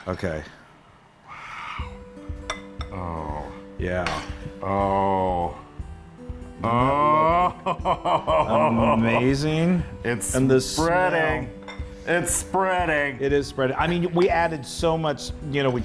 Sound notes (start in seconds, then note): 6.8 laugh